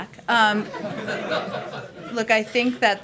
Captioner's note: laughs; laughter